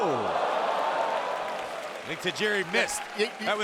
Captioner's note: audience cheering